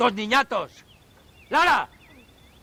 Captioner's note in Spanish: gritando